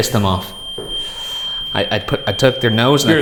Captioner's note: REM pod continues screeching